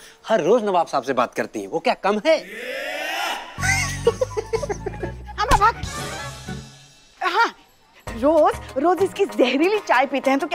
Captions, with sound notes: She talks to the Nawab everyday. Isn't that risky? [giggling] Shut up. Yes! I drink his poisonous tea everyday.